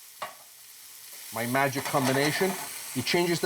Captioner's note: sizzling intensifies